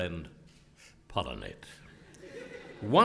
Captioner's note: laugh